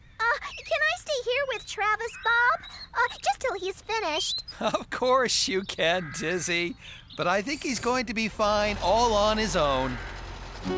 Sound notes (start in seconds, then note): 4.4 chuckling